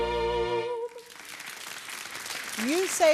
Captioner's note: crowd applauding